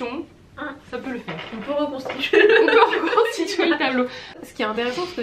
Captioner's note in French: rires